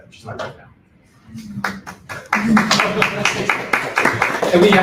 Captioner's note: applause